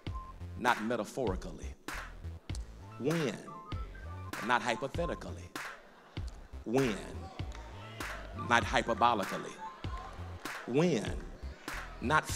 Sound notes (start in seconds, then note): 5.8 laughter; 9.4 crowd murmur